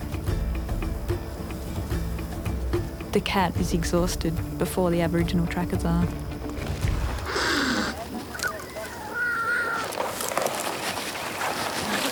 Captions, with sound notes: The cat is exhausted before the aboriginal trackers are. (cat hissing)